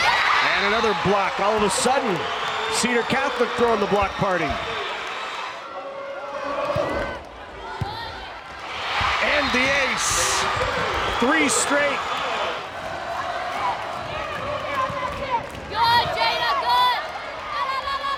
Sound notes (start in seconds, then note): 9.8 crowd and players cheering; 13.7 crowd chanting